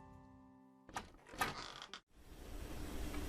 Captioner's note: door creaks open